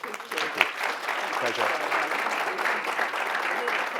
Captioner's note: clapping